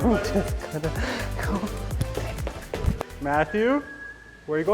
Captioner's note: chuckles